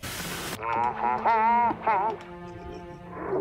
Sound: humming

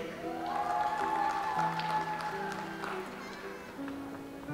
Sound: audience applauds

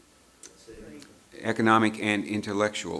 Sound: murmurs

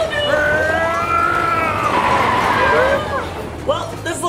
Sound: car tires screeching

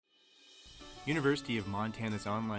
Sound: voiceover

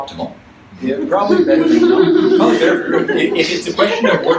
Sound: audience laughs

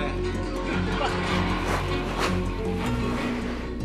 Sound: laughs

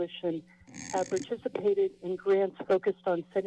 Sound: mic noise

